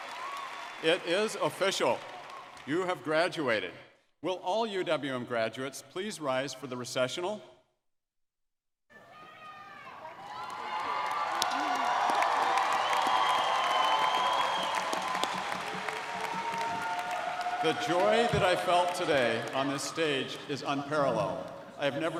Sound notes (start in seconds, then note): 11.0 audience cheering and clapping